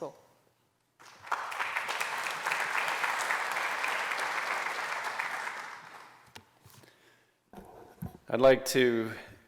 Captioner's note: applause